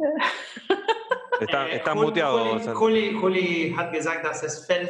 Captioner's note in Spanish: Risas